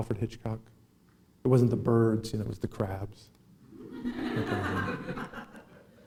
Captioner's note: laughing